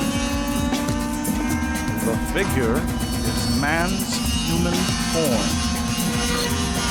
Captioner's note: male Voice